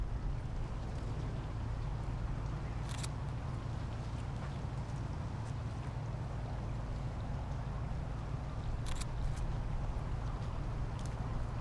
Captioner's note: camera clicking